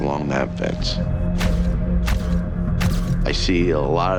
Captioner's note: camera shutter clicking